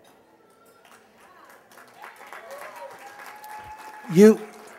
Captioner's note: applause